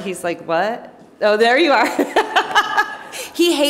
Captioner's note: laughs